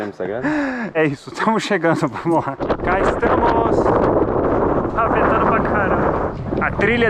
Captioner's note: laughs